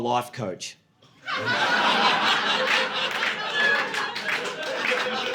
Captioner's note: audience laughing